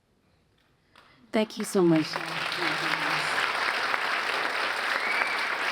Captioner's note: audience applauds